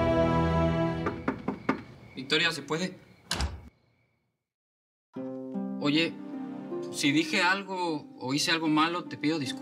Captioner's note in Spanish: Toques en la puerta